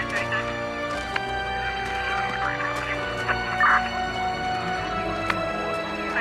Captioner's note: chatter over walkie-talkies